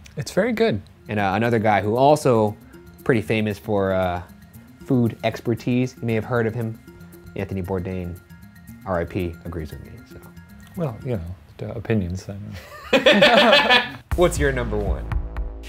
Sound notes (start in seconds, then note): 12.6 laughing